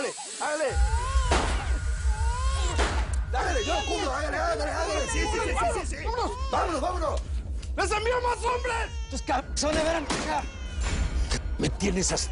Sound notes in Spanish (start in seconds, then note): 0.7 Llanto del bebé; 2.1 Disparos